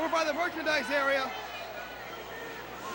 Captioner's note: crowd chatter